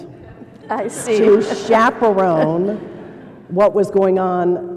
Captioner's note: laughter